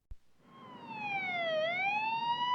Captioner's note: ambulance siren wailing